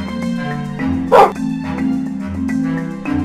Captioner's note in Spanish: sonido de un perro del minecraft